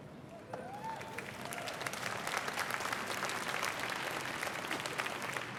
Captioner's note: applause